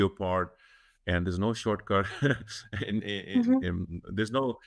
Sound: chuckles

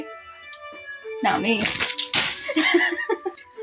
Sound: laugh

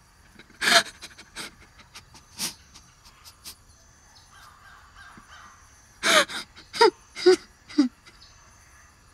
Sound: Romeo crying

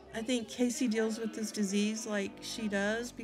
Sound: none

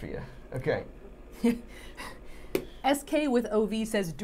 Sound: Safiya laughing

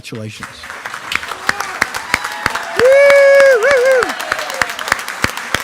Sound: attendees clapping and cheering

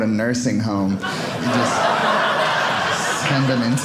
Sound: audience laughing

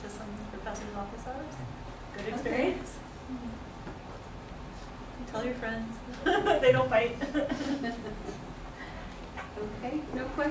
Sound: laughter

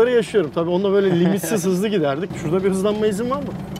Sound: laughing

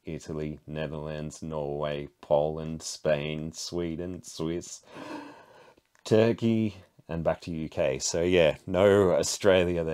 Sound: gasp

